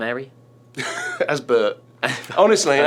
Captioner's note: laughs